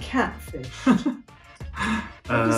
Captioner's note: Jack laughs